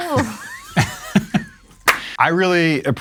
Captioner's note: cast and crew laughing